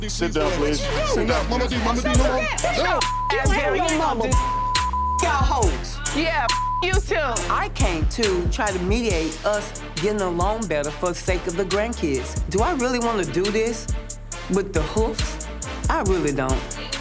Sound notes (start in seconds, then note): 0.0 both yelling; 2.6 beep